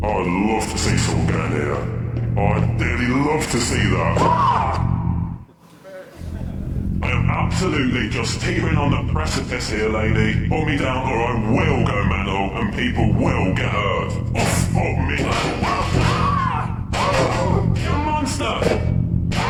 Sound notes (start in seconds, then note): 4.1 scream; 15.1 grunt; 15.6 scream; 17.3 grunt; 19.3 scream